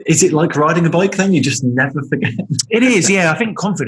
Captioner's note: laughing